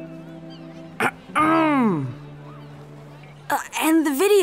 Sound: Dylan clears throat

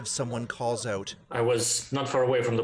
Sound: speaking alternate language

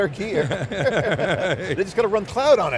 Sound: laugh

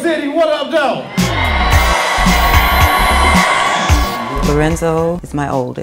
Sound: crowd cheers - " " playing

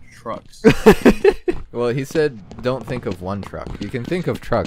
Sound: laughs

